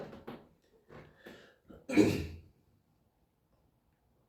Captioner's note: clears throat